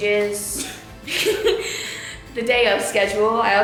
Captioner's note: both chuckle